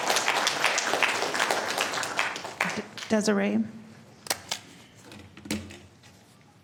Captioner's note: applause